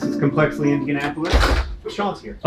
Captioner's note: door shuts